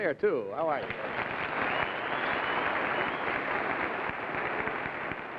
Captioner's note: crowd applauding